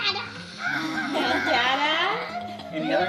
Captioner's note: laughing